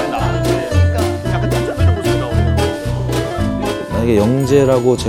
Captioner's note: worried